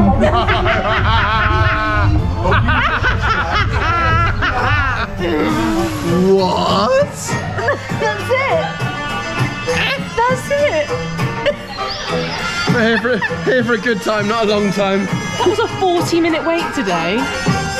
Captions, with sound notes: - No! (laughs) (both laugh) What? - That's it. That's it. (laughs) - Here for a good time, not a long time. - That was a 40 minute wait today.